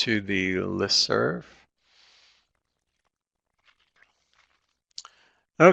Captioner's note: no sound - waiting for questions